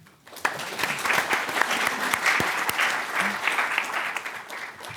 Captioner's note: applause